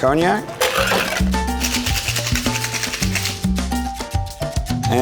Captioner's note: shaker rattles